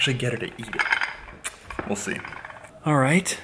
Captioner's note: tsk